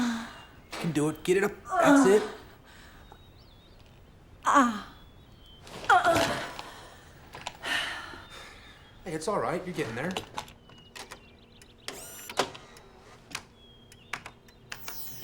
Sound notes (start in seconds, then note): 4.3 strains; 5.5 grunts; 7.4 exhales deeply